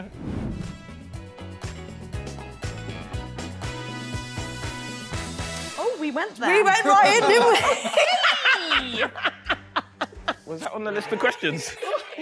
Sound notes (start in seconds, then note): 0.2 upbeat music; 6.9 woman 2 laughing